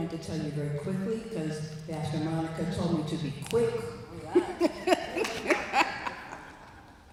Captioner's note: laughs